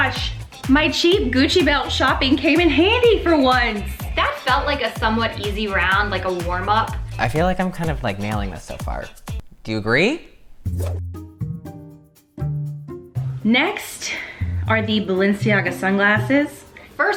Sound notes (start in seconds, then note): 10.8 whoosh; 11.6 inquisitive music